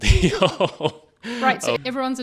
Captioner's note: laughing